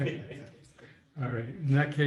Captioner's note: laughter